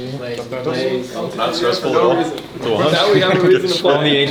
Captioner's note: laughing